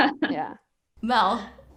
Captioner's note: laughter